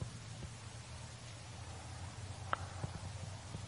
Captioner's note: water falling